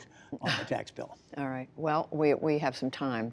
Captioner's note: laughter